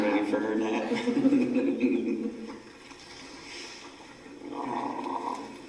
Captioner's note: laugh